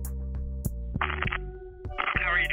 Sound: phone crackling

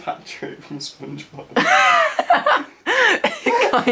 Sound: laughs

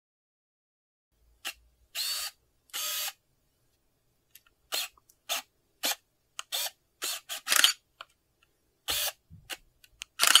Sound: sound of camera

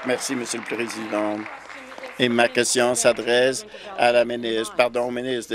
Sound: applause

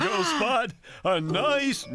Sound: laughing; gasp!

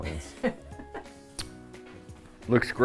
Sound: laughs

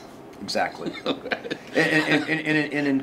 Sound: he laughs

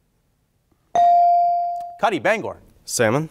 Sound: bell ringing

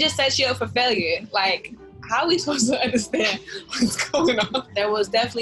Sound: chuckles

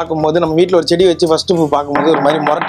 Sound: door knocks

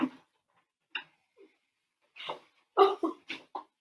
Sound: Beatrice sobbing

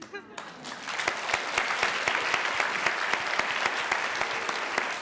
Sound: applause

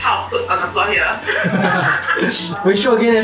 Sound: laughs

